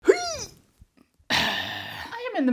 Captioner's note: exhale